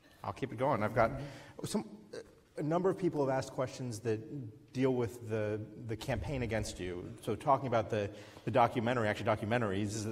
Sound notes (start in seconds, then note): none